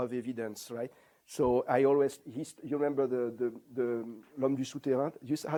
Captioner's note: non-english